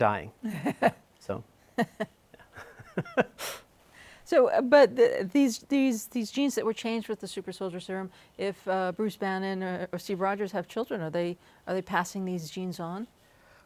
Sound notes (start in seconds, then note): 2.3 laughter